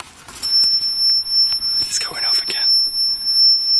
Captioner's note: beeping